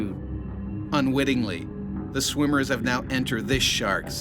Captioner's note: voiceover